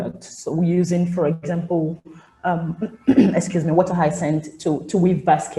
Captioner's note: clears throat